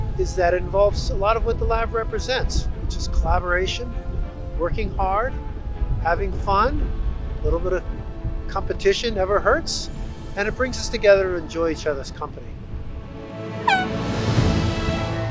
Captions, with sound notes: is that it involves a lot of what the lab represents, which is collaboration, working hard, having fun, little bit of competition never hurts, and it brings us together to enjoy each other's company. [air horn]